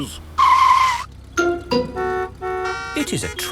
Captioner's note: tires screeching, horns honking